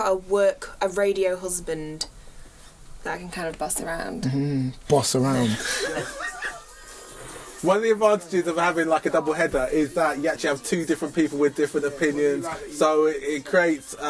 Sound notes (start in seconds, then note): 5.3 laughs